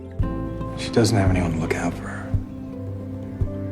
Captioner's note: voiceover